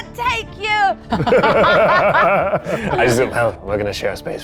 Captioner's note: group laughs